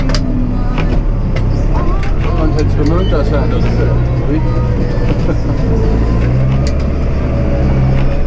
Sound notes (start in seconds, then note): 5.1 chuckles